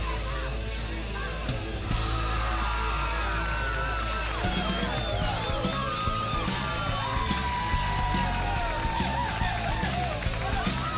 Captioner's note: crowd cheering